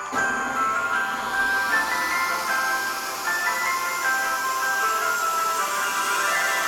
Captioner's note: christmas music playing; circular saw buzzing